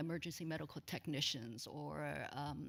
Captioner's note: none